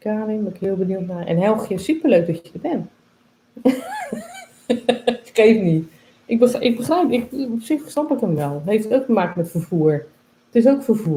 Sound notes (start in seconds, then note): 3.6 laughs